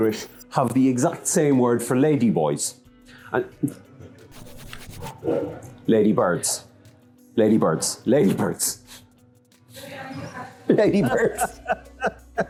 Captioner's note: both laugh hard